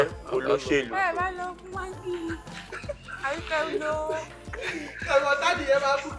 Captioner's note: laughs